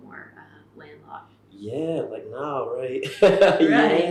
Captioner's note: laughs